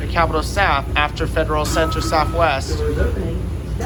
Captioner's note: chime